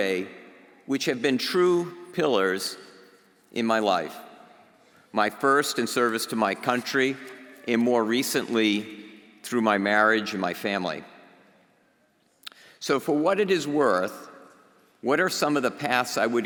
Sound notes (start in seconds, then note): none